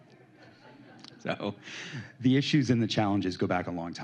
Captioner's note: laughter